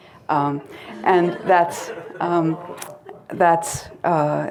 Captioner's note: crowd laughing